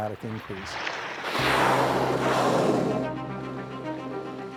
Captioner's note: air hissing